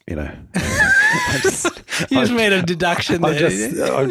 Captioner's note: laughs